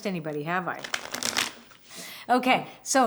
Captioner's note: cards shuffling